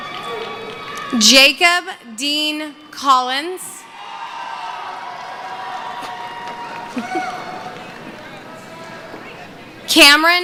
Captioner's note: cheering